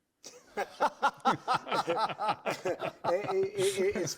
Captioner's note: laughter